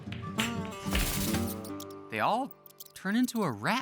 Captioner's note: rat squeaks